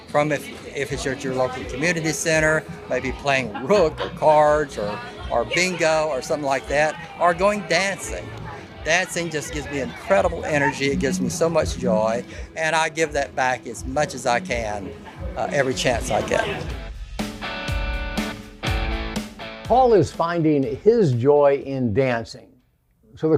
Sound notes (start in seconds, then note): 3.3 giggles; 16.7 upbeat music continues